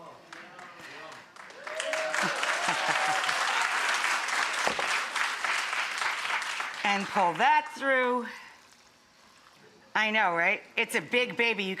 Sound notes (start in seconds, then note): 0.2 audience applauding